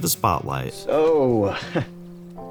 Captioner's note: chuckles